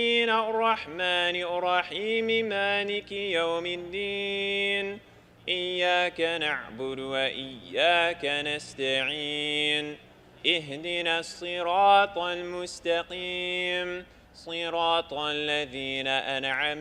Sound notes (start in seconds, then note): none